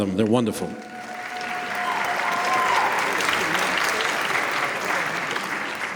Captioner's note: applause